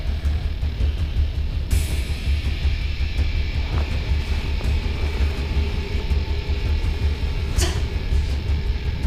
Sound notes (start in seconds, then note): 2.9 whooshing